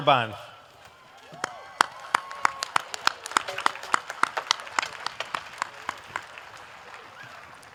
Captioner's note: applause